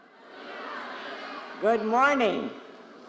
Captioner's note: crowd